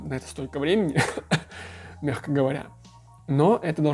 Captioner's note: ironically cough